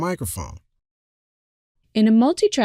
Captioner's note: will clear throat and cough